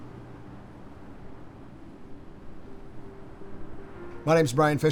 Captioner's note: wind whistling continues